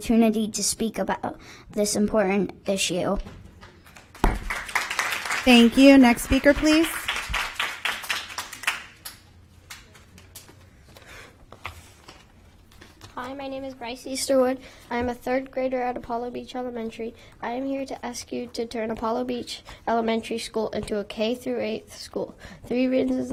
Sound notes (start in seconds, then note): 10.0 applause